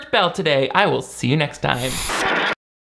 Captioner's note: static buzzes